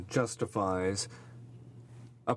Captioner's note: speaking french